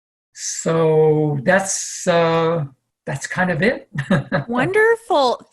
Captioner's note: laughs